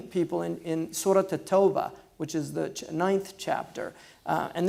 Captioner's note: foreign language